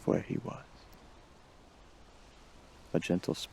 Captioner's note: ocean waves